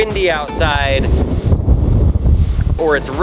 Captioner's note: thunder roars